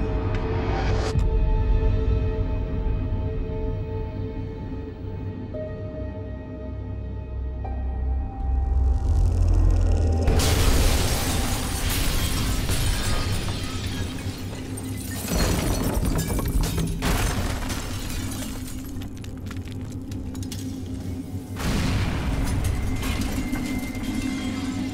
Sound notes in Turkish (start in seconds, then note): 0.2 Müzik - Gerilim; 10.2 Patlama sesi; 10.3 Cam kırılma sesleri; 22.3 Alev sesleri